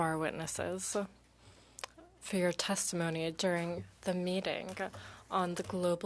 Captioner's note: speaking French